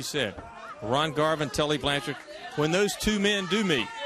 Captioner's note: crowd chatter